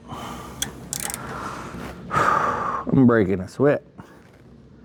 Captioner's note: exhales